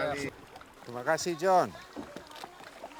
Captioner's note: speaking Austronesian language